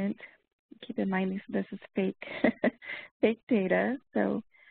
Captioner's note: laughs